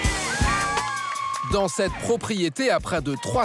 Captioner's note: hollers